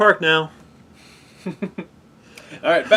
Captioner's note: laugh